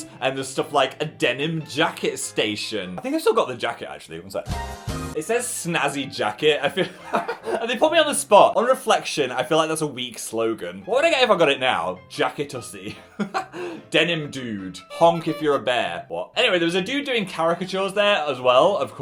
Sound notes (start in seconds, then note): 13.0 laughs